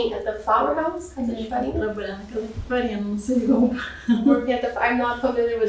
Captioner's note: speaking portuguese